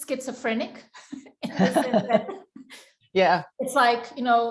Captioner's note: both laugh